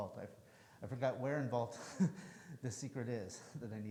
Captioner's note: chuckles